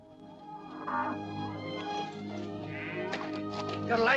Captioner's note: cattle mooing